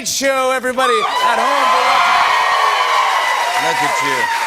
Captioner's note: cheers and applause